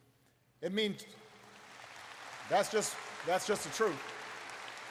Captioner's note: applause